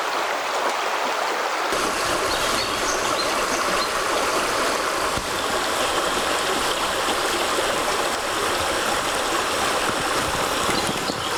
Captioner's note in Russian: шум реки